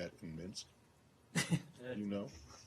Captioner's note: laughter